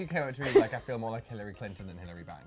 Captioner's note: laughing